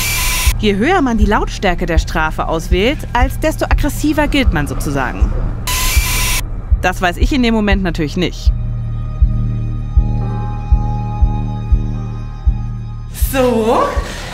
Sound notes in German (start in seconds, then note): 5.1 Lautes Surren; 8.9 Düstere Musik